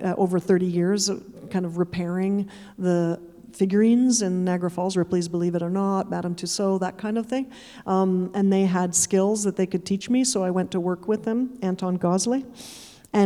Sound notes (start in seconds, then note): none